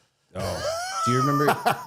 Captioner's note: Matt laughing